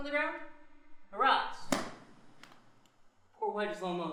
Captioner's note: hand thuds